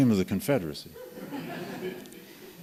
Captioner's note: laughter